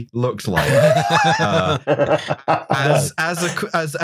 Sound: laughter

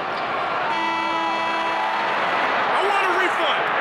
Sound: horn sounds

